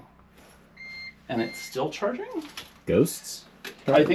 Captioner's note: equipment beeps